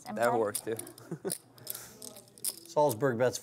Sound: voiceover

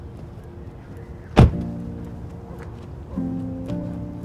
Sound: door slams

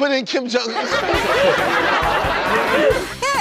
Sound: laughter

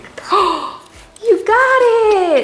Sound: gasping

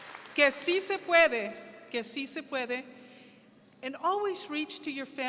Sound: speaking foreign language

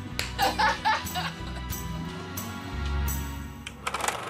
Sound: laughing

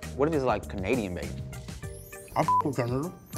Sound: beep

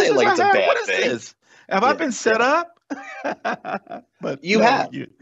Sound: laughs

